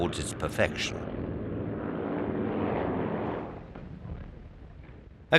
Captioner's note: plane roaring